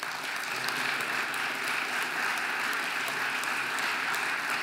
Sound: audience applauding

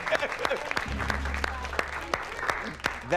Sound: applause

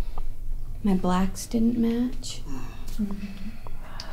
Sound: groaning

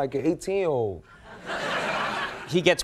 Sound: audience laughing

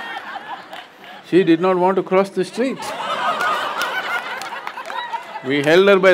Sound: laughter; laughter

